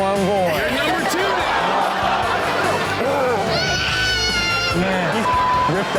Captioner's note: audience laughs; beep